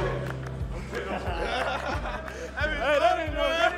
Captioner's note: laughing